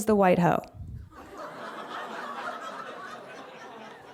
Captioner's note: laughter